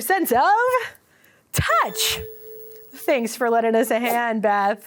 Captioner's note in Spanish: sonido de campana